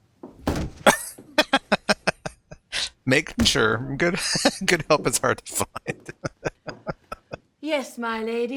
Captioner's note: laughing